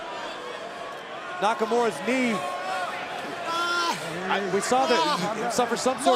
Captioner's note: crowd chatter